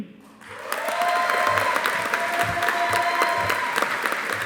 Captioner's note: audience applauding